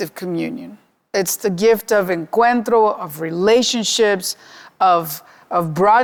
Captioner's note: speaking Spanish